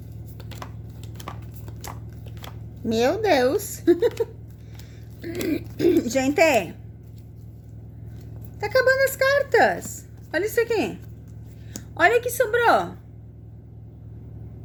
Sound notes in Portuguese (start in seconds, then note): 5.2 limpando a garganta